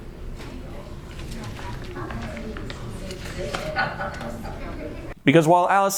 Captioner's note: chitter chatter; giggle